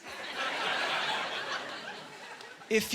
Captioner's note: laughing